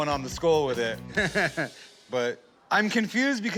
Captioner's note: laughter